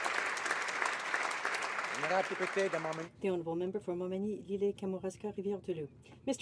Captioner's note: applause